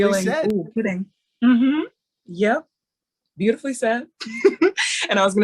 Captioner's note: laughing